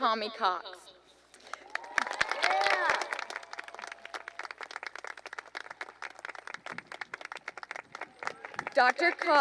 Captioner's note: cheering and applause